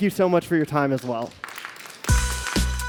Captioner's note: applause